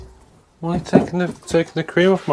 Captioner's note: hammering